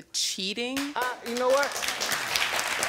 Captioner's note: audience applauding